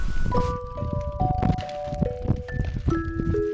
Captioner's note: rustling about; wind